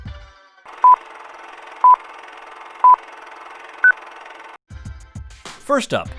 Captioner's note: machine running; rhythmic beeping